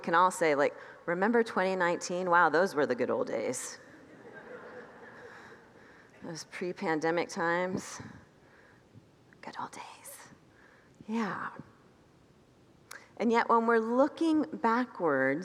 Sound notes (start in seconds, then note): 3.9 congregants laugh